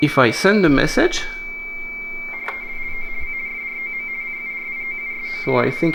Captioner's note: Baudot tones